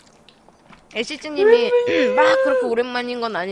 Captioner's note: mocking